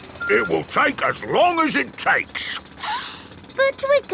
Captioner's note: sniffs